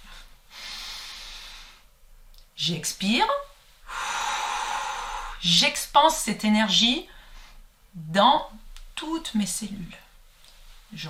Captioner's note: expiration sound; expiration sound